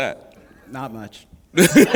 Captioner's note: laughter